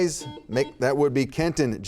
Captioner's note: buzzer beeping